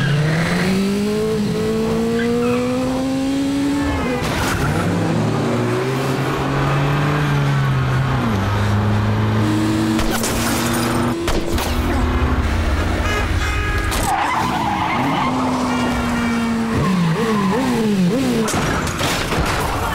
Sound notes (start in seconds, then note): 10.0 glass shattering; 12.8 honking; 13.7 tires screeching; 18.5 crashing